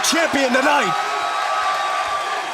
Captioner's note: crowd cheering